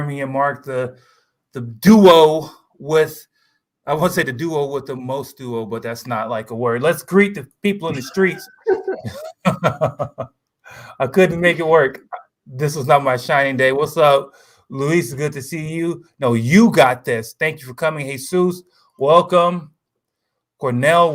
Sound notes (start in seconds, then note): 7.9 laughter